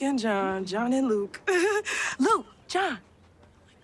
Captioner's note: chuckles